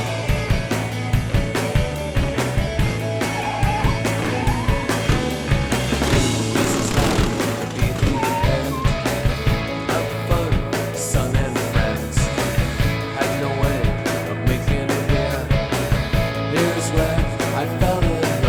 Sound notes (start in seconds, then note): 6.4 engine revving